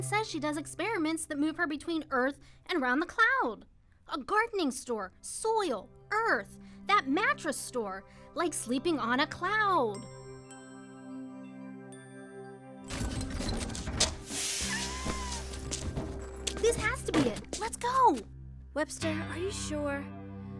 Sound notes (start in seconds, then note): 14.2 hydraulic noises